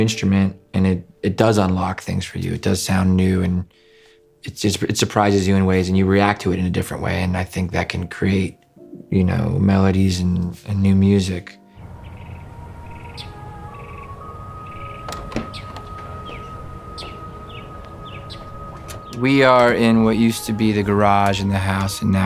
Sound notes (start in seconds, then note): 12.0 birds chirping; 12.0 soft dreamy music